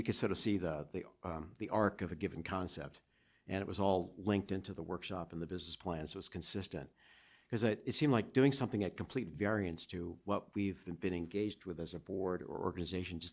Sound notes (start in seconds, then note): none